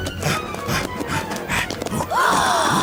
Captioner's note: panting; gasping